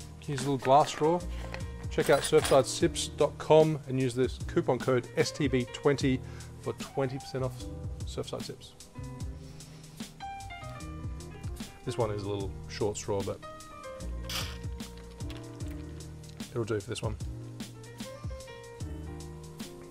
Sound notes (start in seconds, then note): 14.3 sips